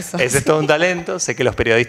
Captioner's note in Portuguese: risos